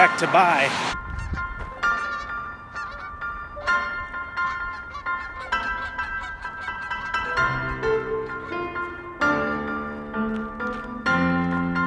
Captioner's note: geese honk